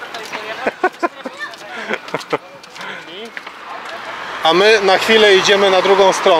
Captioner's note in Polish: śmiech